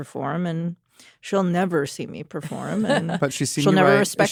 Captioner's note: chuckles